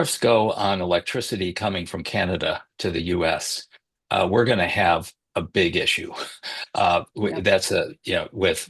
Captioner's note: laughs